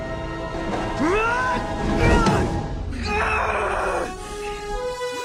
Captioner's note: shouting, grunting